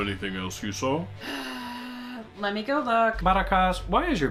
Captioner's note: huge sigh